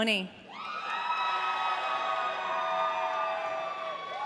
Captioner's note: audience cheering